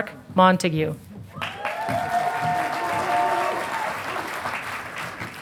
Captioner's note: audience applauding